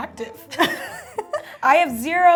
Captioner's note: laughs